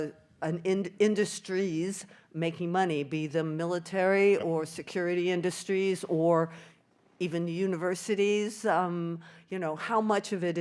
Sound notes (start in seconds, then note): none